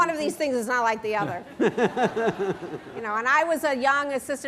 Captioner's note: laughter